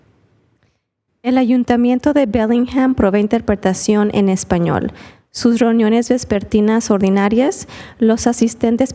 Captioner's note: spanish